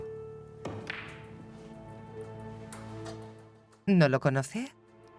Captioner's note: balls clacking